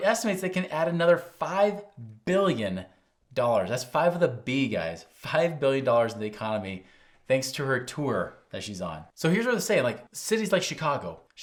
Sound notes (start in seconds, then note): none